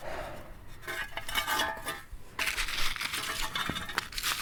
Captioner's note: stones clattering; metal scrapes